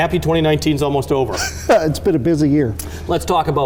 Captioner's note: laughs